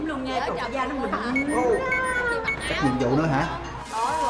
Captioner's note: quest notification